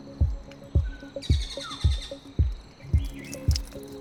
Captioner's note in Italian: Rumori della giungla